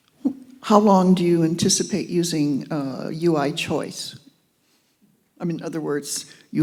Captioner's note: voiceover